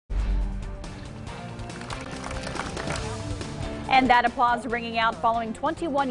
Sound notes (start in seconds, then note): 1.6 applause, clapping